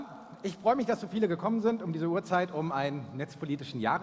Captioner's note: German spoken